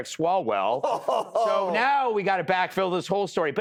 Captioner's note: laughter